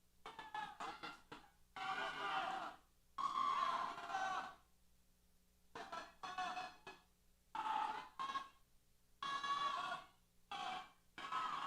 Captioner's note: cheers